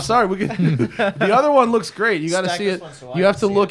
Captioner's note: laughter